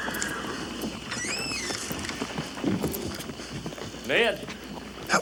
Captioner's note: horse neighs; door creaks